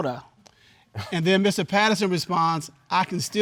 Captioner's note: chuckles